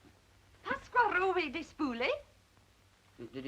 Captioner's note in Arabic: آنا تتحدث لغة أجنبية